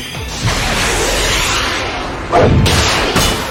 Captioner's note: rocket Fires